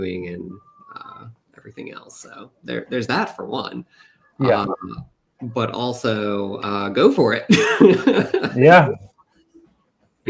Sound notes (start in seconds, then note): 7.5 laughs